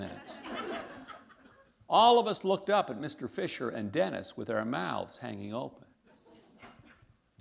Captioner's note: laughter